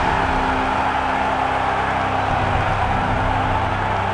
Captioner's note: the crowd sounds reasonably pleased with this turn of events